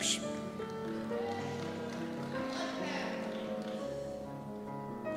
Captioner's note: cheers